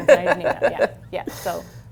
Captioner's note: laughs